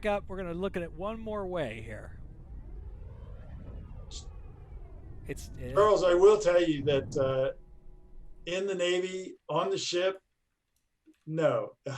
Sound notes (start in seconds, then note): 2.9 engine roaring